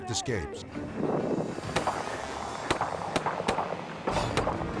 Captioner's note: gun banging